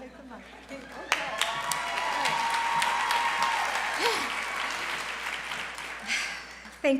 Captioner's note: applause